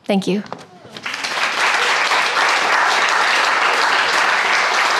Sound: crowd applauding

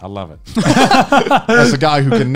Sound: men laughing

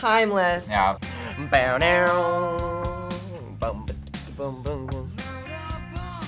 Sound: both imitate guitar

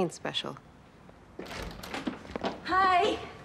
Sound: door opens

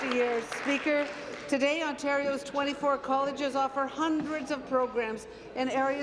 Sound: applause

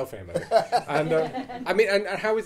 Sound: audience laughing

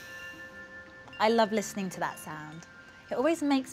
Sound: deep inhale - exhale

